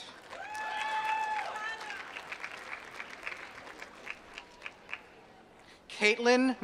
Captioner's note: applause